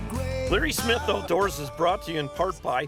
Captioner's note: voiceover